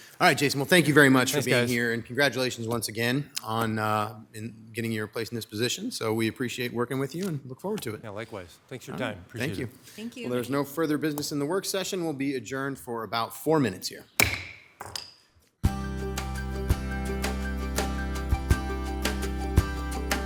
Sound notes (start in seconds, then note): 14.2 gavel thuds; 15.6 bright gentle music